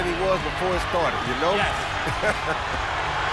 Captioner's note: laughs